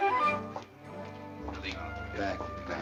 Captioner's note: chatter